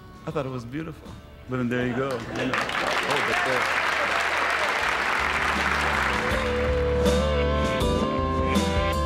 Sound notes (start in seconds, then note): 2.0 applause; 4.9 trippy rock music playing